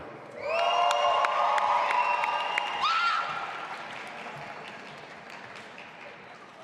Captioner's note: audience applauding and cheering